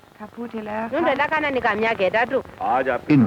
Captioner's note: non-English speech